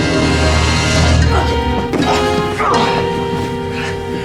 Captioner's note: grunting